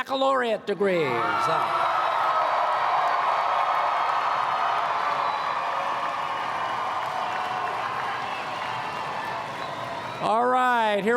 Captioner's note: applause